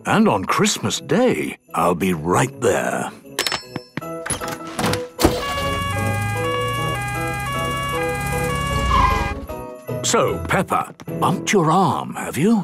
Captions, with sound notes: And on Christmas day! I'll be right there! - (siren sounding) - So, Peppa! Bumped your arm have you?!